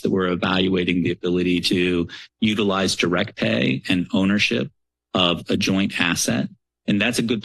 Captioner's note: none